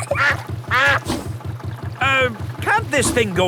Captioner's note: level clangs; kids giggling; quacks